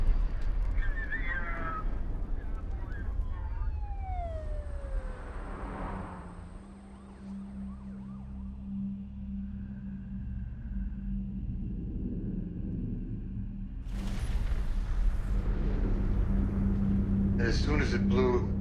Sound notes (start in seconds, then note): 2.2 sirens blaring